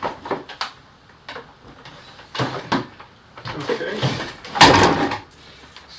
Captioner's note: small bangs from pulling power cords off-screen